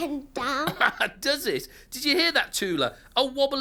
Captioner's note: laughing